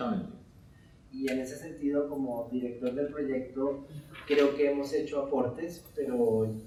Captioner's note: speaking in Spanish